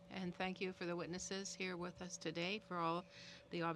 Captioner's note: speaking in French